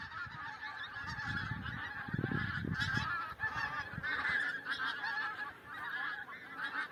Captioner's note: geese honking